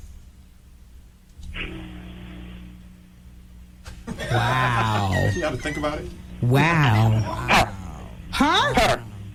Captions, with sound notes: Wow. You have to think about it. Wow. [DOG BARKING] Huh?